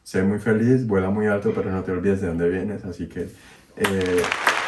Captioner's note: applause